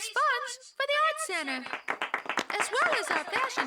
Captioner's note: applause